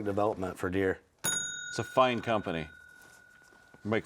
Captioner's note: bell dings